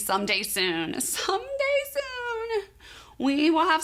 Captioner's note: none